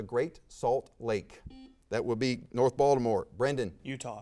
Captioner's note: buzzer sounds